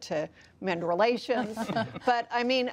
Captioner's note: laughter